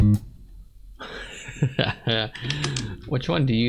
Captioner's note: laughing